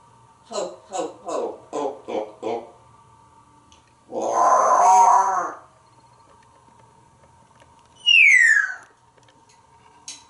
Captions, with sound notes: Ho, ho, ho. Ho, ho, ho. Roar!!! [whistling]